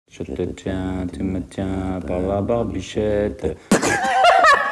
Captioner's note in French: rire